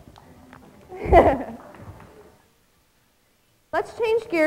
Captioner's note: laughing